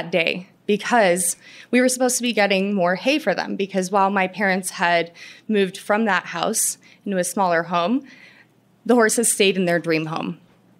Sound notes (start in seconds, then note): none